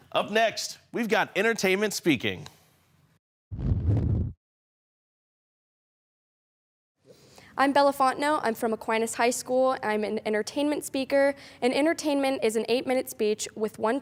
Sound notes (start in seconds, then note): 3.5 whoosh; 3.6 silent